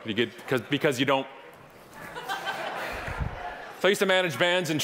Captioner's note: audience laughing